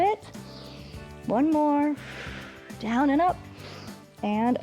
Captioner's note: exhales; inhales